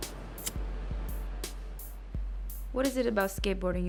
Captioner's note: lighter clicks